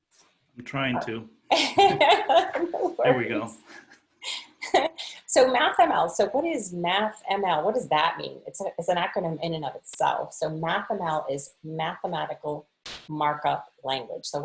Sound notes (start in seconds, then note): 1.5 laughter; 1.5 laughing